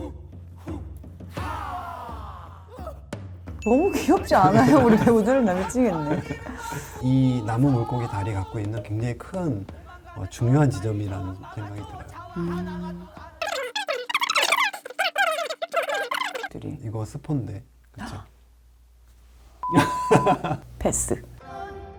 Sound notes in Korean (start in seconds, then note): 13.6 빨리 감기 효과음; 17.8 놀란 숨소리; 19.6 삐 소리 효과음; 19.7 웃음